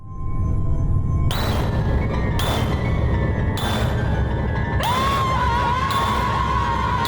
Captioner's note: woman screams; dramatic music